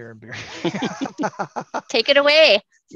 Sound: laugh

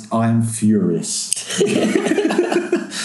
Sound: laughing

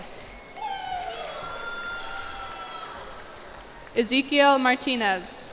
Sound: cheers and applause

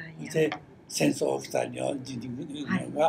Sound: foreign language

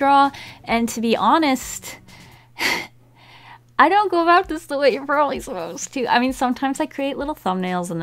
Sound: deep breathe

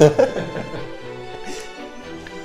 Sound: laughes

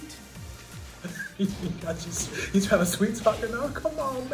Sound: laugh

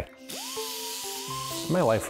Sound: drill whirring

